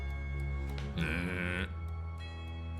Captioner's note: mooo